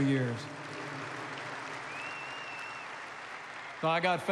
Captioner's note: applause